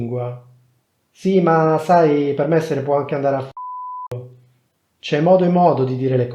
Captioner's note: beep